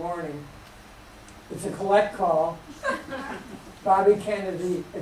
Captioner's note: laughter